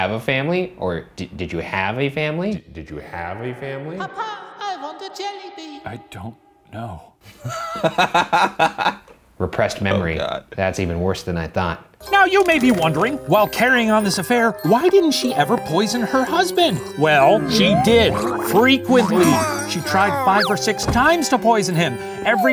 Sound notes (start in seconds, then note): 2.9 echoes; 7.3 laughing